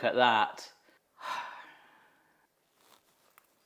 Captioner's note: host sighs; food combo crunching